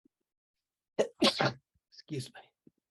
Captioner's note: sneeze